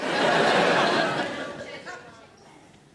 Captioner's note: audience laughs